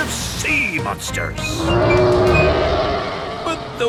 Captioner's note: roaring